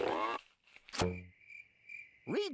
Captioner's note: crickets chirping